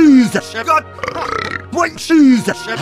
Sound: burp

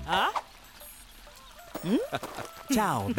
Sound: Peter chuckling

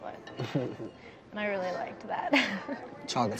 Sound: laughs

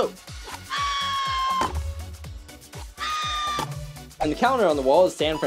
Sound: HeiHei screams

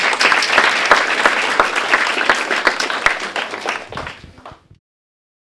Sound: applause

